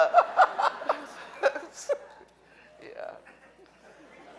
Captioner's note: laughing